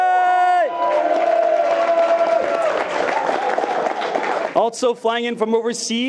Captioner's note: attendees cheering and clapping